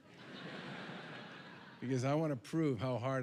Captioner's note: laughter